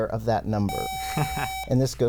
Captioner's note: buzzer